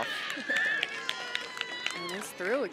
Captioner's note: cheering